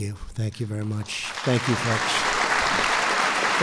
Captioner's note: applause